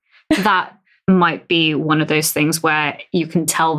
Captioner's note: laughs